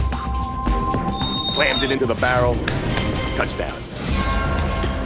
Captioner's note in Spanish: silbato sopla